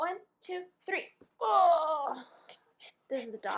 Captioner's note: grunt bc he's a heavy boy lol